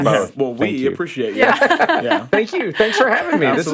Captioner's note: laughs